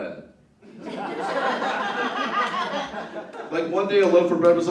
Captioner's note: laughter